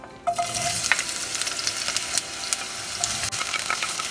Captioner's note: onions sizzling